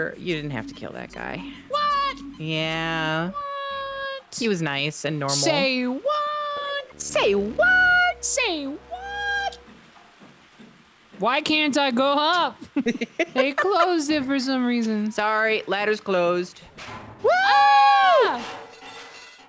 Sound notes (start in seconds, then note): 12.4 laughs